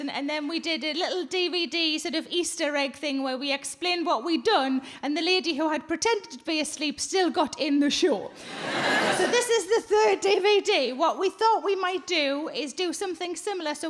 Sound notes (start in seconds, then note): 8.4 crowd laugh